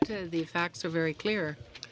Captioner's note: speaking in french